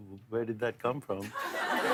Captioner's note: laughter